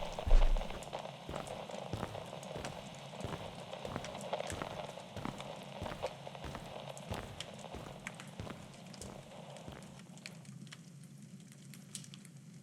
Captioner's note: fire crackling fx